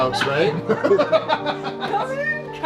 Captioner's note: laughs heartily